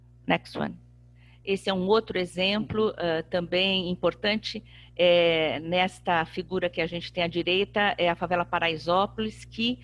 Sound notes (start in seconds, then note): 1.5 speaking portuguese